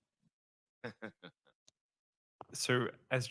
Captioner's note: moderator laughs